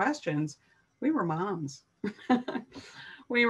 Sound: chuckling

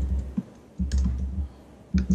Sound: typing

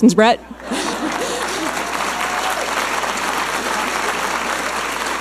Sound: audience applauding

